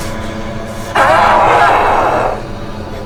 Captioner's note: growling